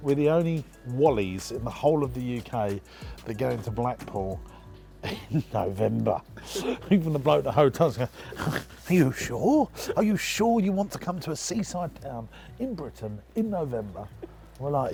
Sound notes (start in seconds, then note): 5.0 laughs; 8.1 snorts